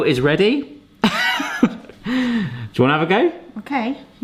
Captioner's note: chuckles